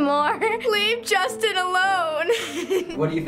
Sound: laughing

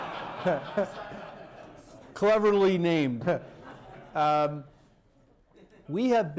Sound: laughter

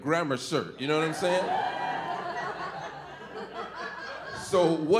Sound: audience laughing

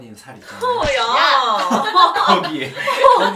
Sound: laugh

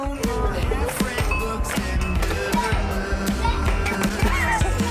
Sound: upbeat music; blabbering; air hockey pinging; men laughing

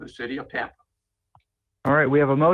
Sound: ~audio distortion~

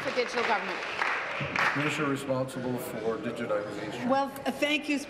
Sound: applause

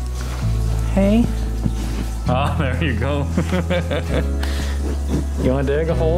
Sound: laughter

